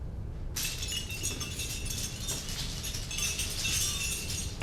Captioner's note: jingling bells